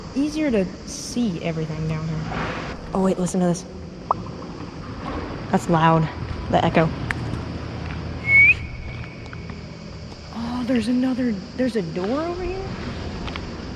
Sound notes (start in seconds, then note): 4.1 makes popping sound with cheek and it echoes; 8.2 whistles loudly and it echoes